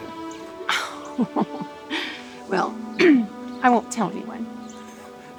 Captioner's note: laughs